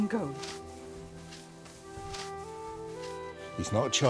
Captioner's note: scrubbing